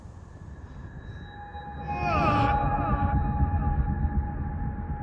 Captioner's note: audio whines